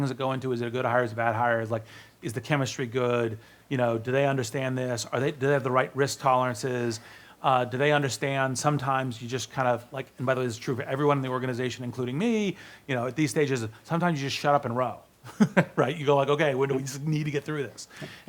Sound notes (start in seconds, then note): 15.3 laughs